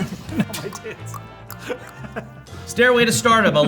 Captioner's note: tongue clicking; laughing